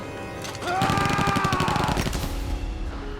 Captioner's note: gunfire